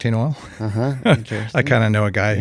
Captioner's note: laughs